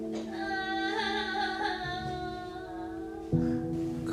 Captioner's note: booo..hooohoo